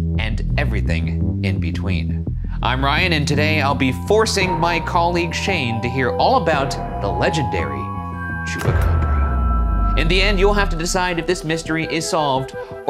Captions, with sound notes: and everything in between. I'm Ryan, and today I'll be forcing my colleague Shane to hear all about the legendary... Chupacabra. (slide clicking) In the end, you'll have to decide if this mystery is solved,